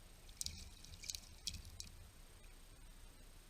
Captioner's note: rocks clinking